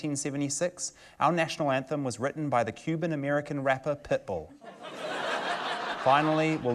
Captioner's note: laughter